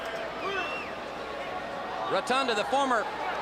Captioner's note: crowd chatter